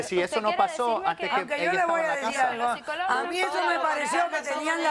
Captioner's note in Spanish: Hablan al unísono